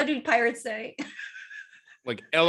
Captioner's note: laughing